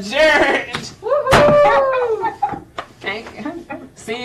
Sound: cheering

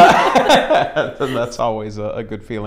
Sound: laughs

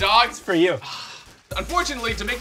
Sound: sighs

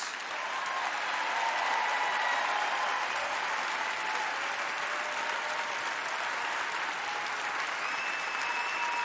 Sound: cheering

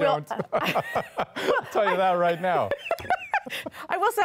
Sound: laughter

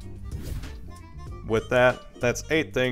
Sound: air whooshing

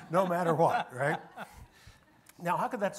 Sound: panelists laughing

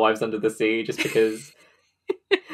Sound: laughing

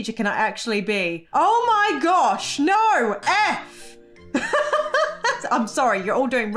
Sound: laughs

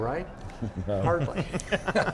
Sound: laughs

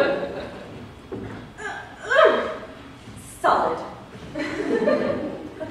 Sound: gasping with effort

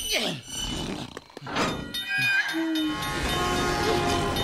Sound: train Sounds; ding

